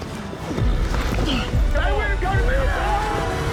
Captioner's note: grunts